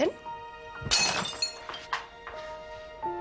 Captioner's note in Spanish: Estrépito